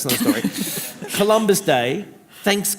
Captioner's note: laughter